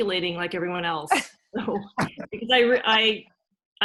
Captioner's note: laugh